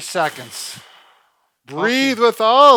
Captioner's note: breathes out heavily